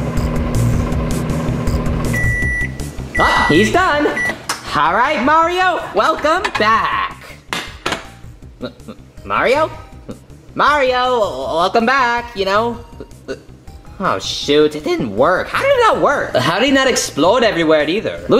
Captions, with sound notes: (microwave beeping) Ah, he's done. All right, Mario, welcome back. (plate thudding) M-Mario? Mario, welcome back. You know. Oh, shoot, it didn't work. How did it not work? - How did that not explode everywhere either?